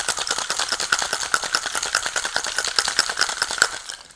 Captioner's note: drink shaking